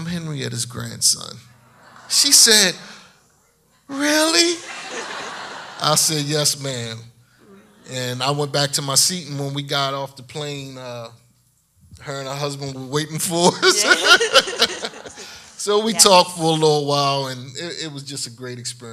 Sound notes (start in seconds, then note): 4.3 audience laughs; 13.6 laughing